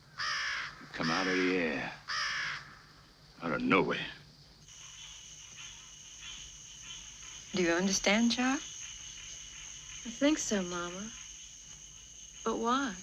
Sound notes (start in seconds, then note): 1.0 bird cawing; 5.1 insects chirping